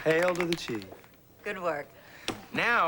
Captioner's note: claps